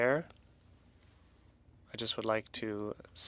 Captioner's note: speaking French